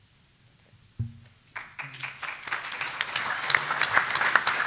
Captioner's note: applause